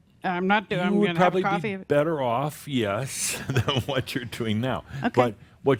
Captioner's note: Adamus chuckles